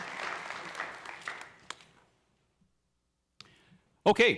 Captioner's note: applause